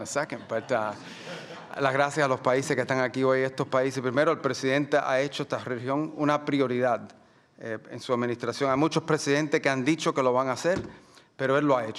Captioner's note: speaking Spanish